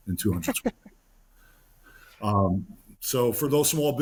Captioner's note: laughing